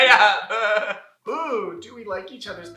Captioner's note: laughter